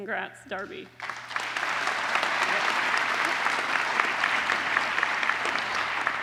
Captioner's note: applause